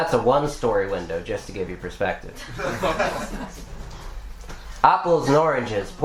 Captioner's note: laughter